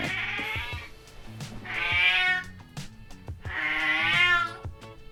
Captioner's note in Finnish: kissa rääkyy